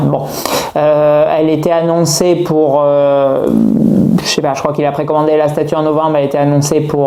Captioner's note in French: grognement